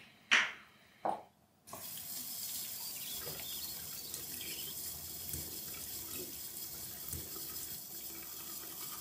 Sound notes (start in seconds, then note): 1.8 water splashing